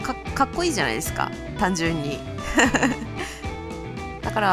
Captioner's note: laughs